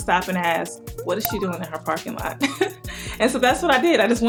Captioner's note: chuckles